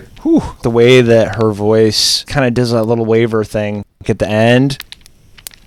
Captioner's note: whew